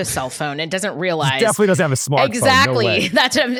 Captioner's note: laughs